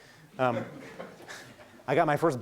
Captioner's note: laughing